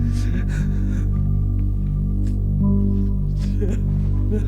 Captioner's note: sobs